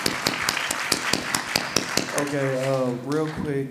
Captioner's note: audience applause